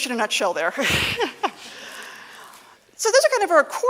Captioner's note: laughing